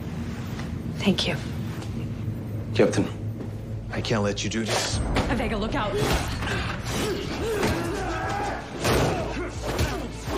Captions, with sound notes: - Thank you. - Captain, I can't let you do this. - Avega, look out! - ( grunting )